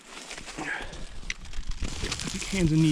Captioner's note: branches cracking